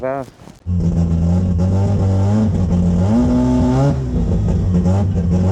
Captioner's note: engine rumbling